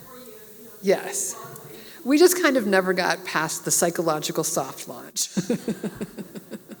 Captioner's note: laugh